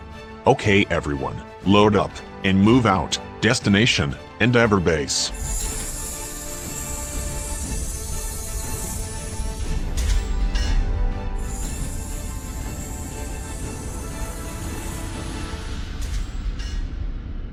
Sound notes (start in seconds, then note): 5.5 hanger doors opening; 11.8 exterior hanger door opening